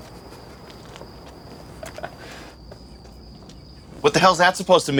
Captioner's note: man laughing